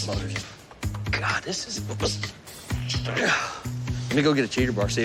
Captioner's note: grunting